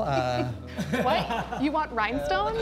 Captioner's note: chuckling